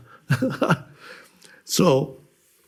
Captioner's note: laughs